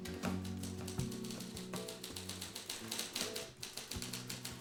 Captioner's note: typing